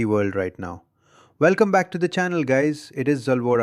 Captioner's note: excited